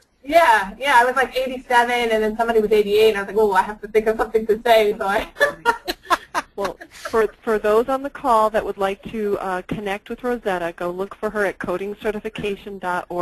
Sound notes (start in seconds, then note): 7.0 laughs